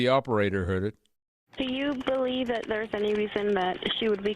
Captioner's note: 911 recording